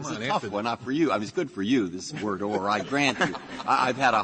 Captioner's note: laughter